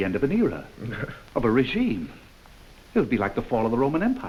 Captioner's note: Fedor chuckles